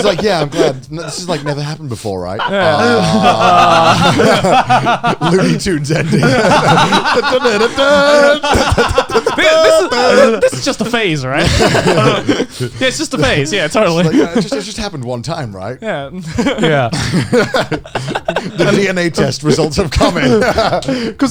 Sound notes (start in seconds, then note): 3.8 laughing; 6.9 hums; 15.7 all laughing